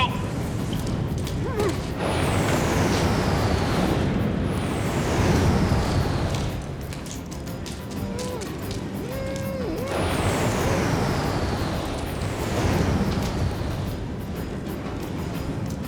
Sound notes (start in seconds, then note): 1.2 Bridges whimpers; 7.8 muffled moaning